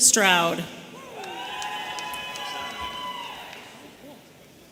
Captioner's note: audience cheering